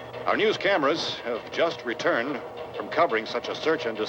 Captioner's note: none